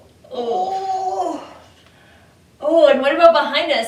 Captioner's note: both groaning